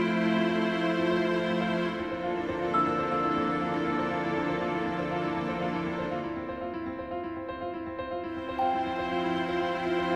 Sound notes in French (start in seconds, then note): none